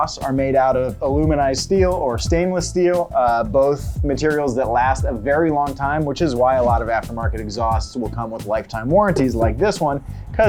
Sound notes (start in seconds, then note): none